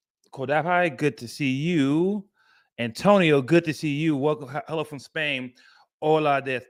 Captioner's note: none